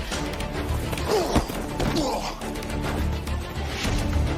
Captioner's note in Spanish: Golpes y exclamaciones